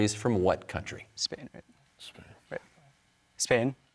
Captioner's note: whispering